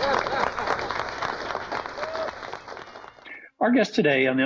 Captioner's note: applause